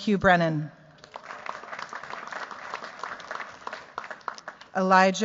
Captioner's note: cheers, applause